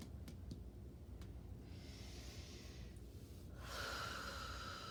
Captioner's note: breathing deeply